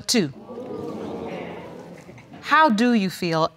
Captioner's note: crowd booing